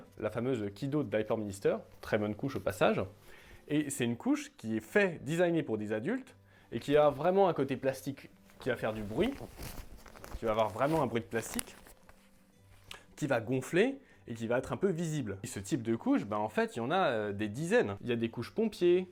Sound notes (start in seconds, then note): 8.4 plastic noise